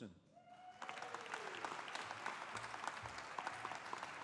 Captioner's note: audience applauding